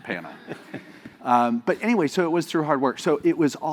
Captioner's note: laugh